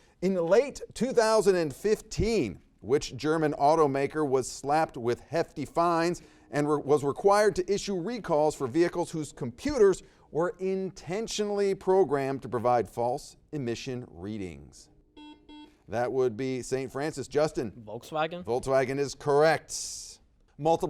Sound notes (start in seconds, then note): 15.1 buzzer beeps